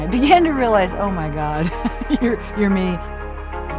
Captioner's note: chuckles